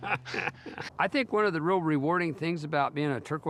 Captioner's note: laughing